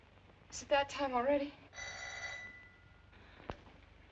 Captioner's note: doorbell rings